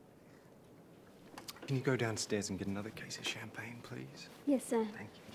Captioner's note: David and guests speaking foreign language